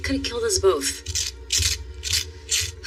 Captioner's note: scrcraping toasast